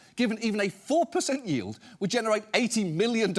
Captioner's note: none